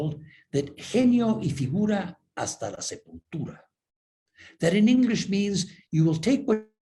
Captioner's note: spanish